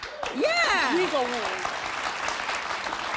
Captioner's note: audience cheering